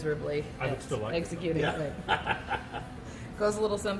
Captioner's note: laughs